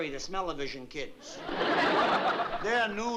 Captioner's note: laughter